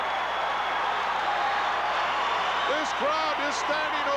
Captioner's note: applause